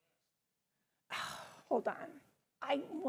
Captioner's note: sighs